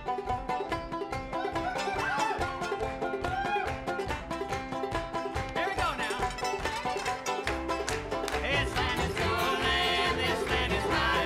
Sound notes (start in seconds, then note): 1.0 cheering